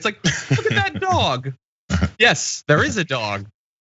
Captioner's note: laugh